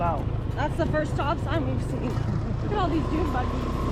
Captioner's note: laughs